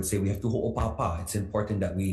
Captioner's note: speaks foreign language